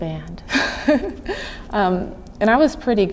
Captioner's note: chuckling